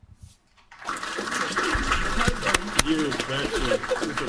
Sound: applauding

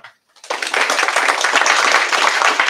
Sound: applause

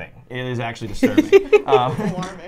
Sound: laughing

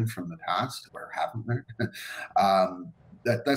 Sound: laughs

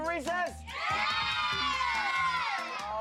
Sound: all cheer

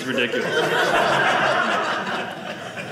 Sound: audience laughing

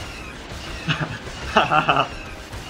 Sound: laughs

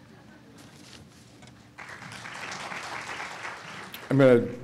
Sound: crowd applauding

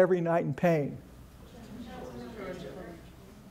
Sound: audience chatter

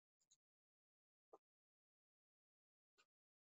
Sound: mouse clicking

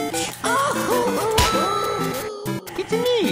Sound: crying

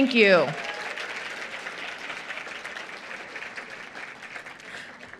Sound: applause

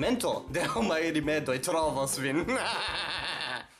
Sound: scary laughter

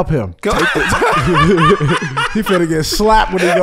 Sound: laughs

